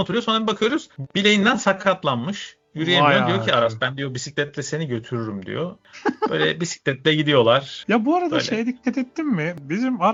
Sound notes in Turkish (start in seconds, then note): 5.9 kahkaha